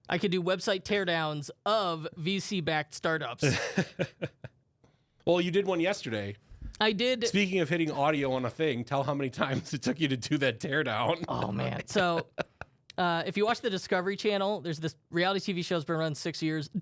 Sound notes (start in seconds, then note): 3.4 laughs